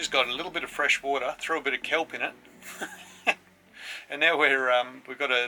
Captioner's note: laughs